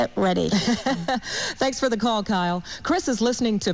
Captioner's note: laughs